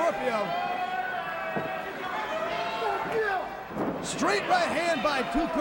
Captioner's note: crowd chatter